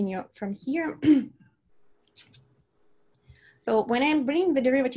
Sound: clears throat

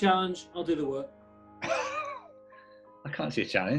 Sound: sniggering

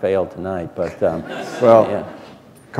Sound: laughter

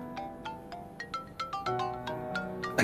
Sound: mobile ringing

